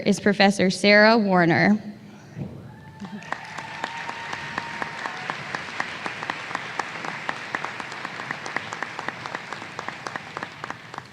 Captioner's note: applause